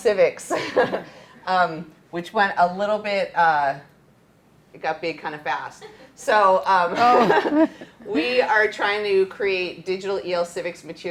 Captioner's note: laughter